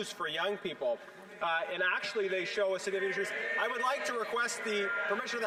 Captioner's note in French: voix de l'interprète